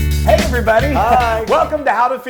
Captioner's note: laugh